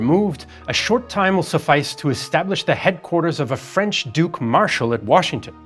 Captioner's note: French